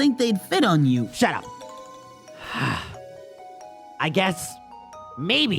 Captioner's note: sighs